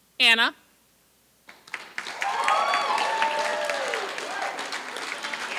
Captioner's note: applause